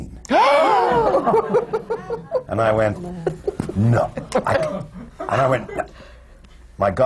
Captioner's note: gasps of horror